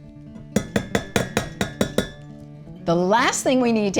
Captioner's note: whisk tapping